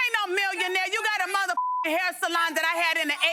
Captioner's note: beep